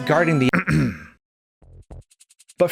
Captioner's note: cough